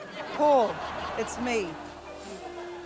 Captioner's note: blows